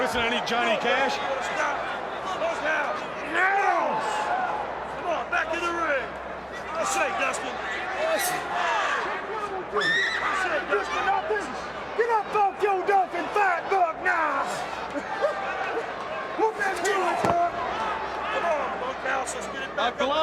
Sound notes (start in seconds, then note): 7.3 crowd chatter